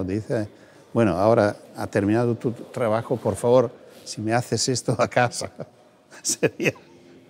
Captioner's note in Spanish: risas